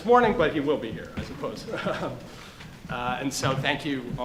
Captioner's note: laughs